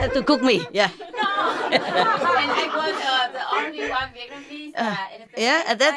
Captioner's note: Vietnamese